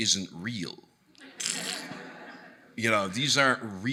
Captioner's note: audience laughing